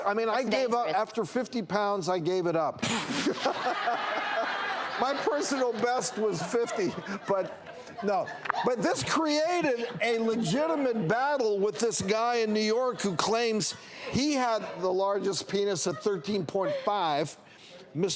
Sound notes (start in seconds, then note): 3.2 audience roars with laughter